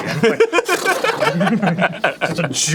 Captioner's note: neighs fire just like a real hell stallion would